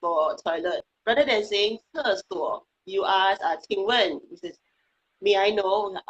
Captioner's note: speaking foreign language